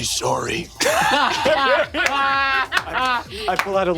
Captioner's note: players laughing